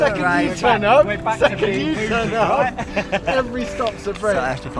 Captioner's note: excited banter